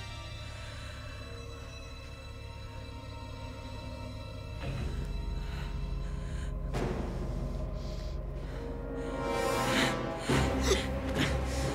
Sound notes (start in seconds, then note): 4.7 heavy breathing; 8.8 dramatic music